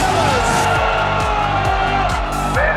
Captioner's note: all cheering